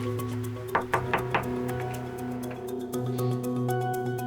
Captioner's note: door thudding